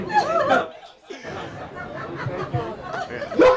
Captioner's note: person laughs; people laugh